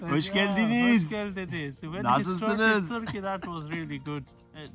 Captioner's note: in Turkish; in Turkish